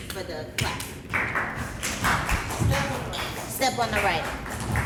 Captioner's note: performers clapping